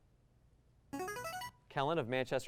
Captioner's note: buzzer